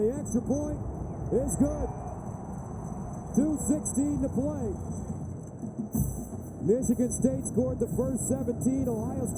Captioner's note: cheering